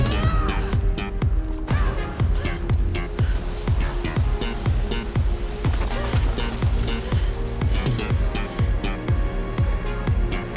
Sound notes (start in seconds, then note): 0.0 yelling; 3.9 water whooshing; 6.8 panting